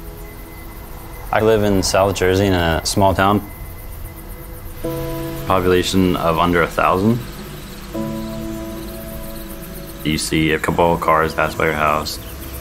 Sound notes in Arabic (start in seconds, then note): 7.8 مؤثرات صوتية لمعدّات زراعية